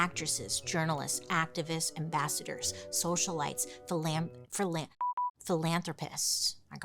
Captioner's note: beep